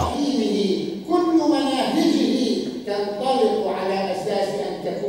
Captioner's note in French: Arab spoken audio